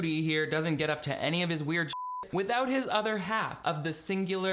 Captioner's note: beeping